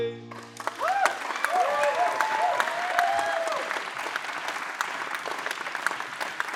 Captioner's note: applause; cheering